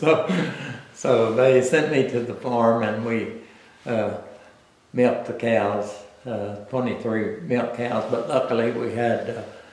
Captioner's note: laughs